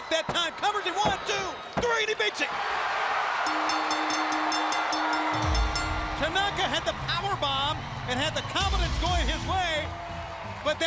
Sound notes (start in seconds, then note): 3.2 crowd cheering; 3.4 bell ringing